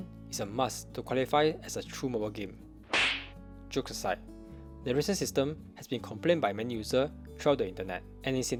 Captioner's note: slap